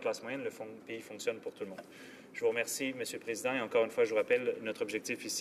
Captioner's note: speaking french